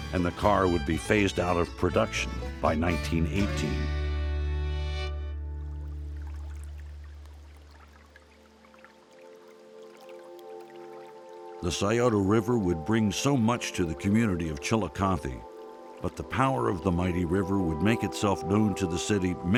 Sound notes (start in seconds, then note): 6.1 gentle music; 6.1 river burbling